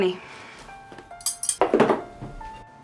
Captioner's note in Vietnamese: tiếng muổng lách cách